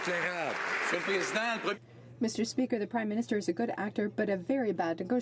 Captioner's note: some Applause